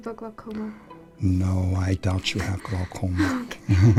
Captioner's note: laughs